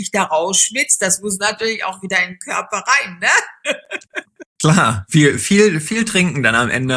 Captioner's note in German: gelächter